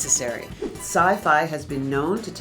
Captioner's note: air whooshing